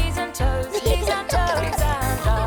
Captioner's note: giggling